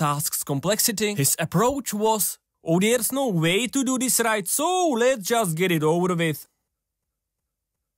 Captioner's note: in terrible Welsh accent